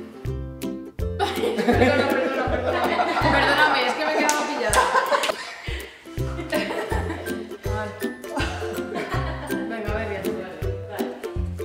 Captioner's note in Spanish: Risas